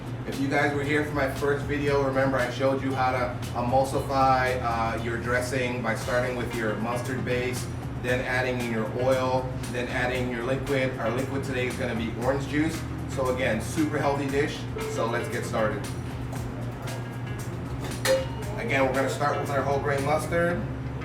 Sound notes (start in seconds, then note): 17.8 clanging